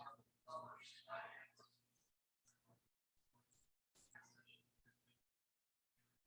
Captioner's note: people chattering indistinctly